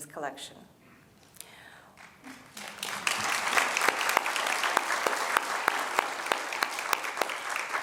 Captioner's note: applause